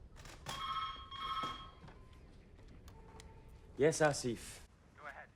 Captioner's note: telephone ringing